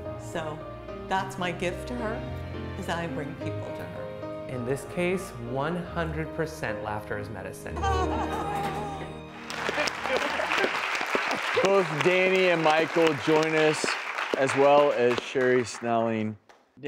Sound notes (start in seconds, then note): 7.8 laughs; 9.2 audience applauds